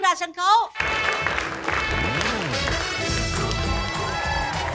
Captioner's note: applause